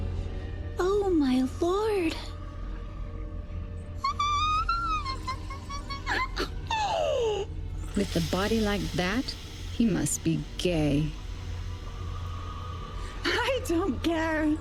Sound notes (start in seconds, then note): 4.0 squeek of excitment